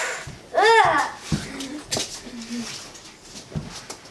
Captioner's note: children playing